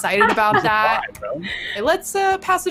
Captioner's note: speaking faintly